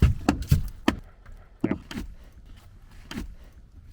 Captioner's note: hammer thudding